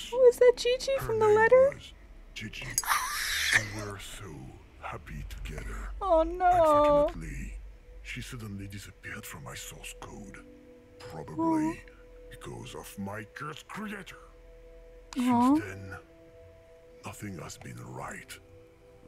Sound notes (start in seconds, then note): 2.8 screams in emotional damage